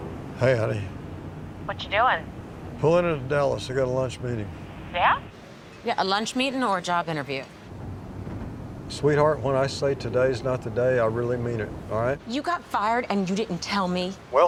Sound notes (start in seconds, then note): 1.6 on phone; 5.4 on phone